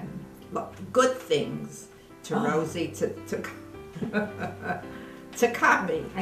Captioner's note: laughs